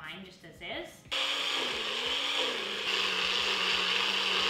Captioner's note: blender whirring